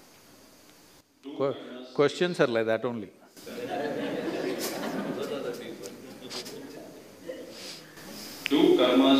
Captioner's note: laughter; 笑聲